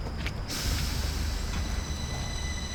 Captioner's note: subway train starts